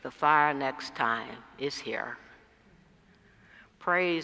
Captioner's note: none